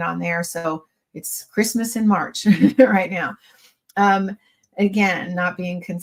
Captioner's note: chuckles